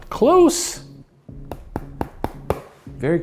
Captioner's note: knocking